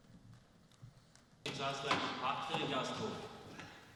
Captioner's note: speaking german